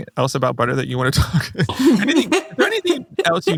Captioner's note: laughs